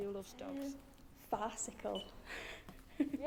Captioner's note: giggles